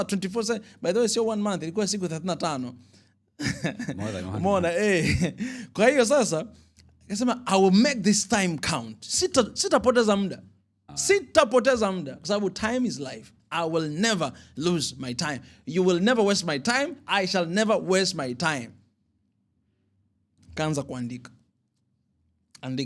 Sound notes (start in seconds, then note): 3.4 laughter